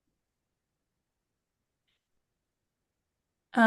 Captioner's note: pause